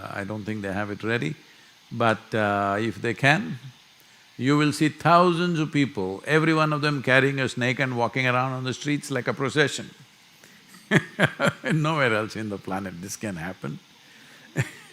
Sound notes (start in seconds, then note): 10.8 laughs